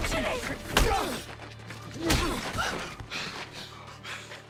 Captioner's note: fist smacking; Daphne gasping; Anthony breathing heavily; clothes rustling